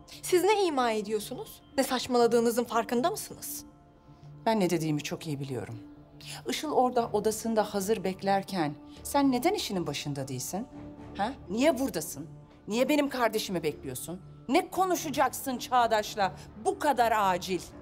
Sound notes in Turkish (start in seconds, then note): none